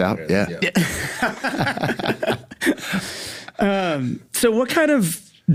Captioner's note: laugh